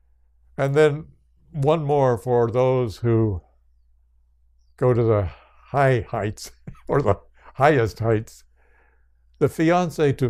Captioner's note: laughs